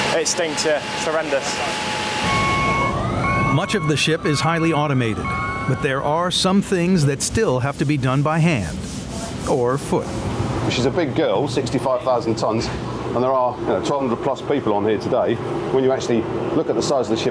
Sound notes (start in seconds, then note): 2.1 machine beeping